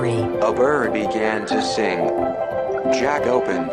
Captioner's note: voiceover